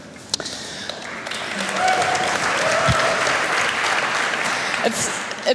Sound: applause

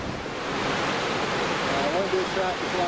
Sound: waves crashing

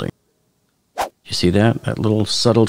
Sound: air whooshing

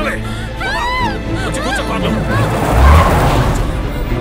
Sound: brakes squeal

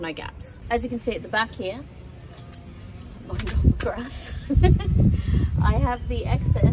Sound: chuckles

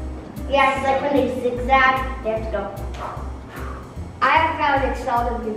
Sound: blows

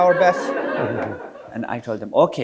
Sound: audience laughing

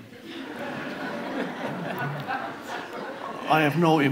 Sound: audience laughs

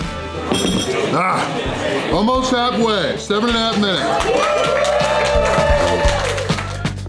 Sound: crowd

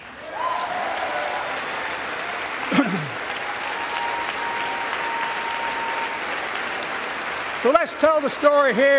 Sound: applause

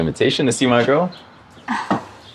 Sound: sighs

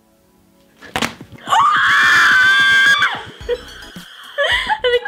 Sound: screaming

